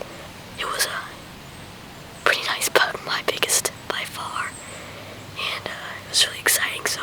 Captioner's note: whispering